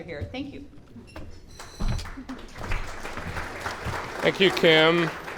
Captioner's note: clapping